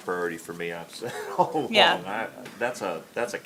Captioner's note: laughs